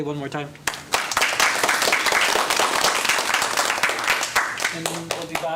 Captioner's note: applause